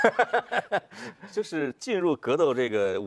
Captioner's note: laughter